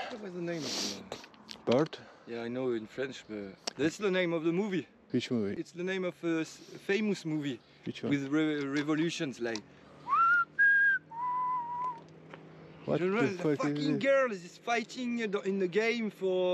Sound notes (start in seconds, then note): 10.0 whistles